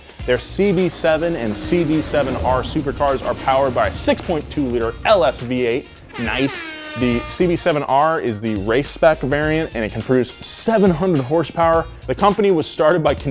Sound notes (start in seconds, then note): 6.5 siren blares